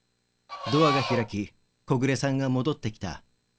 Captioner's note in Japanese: ドアの開く音：ギイィ